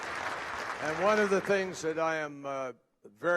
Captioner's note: applause